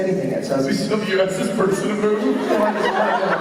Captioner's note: laughing